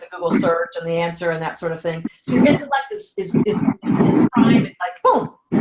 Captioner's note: audio dropping